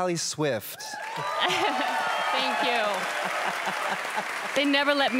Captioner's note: audience applause